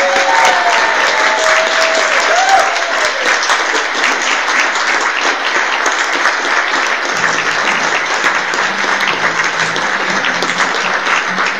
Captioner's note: applause